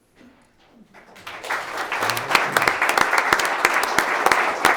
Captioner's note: clapping